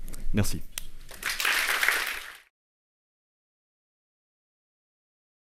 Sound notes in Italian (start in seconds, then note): 1.1 Applausi